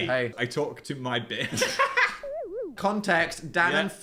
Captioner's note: laughs